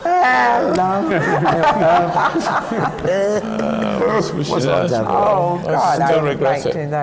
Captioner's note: laughter